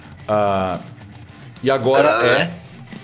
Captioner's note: puke noises